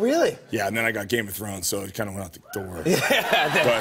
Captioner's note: chuckling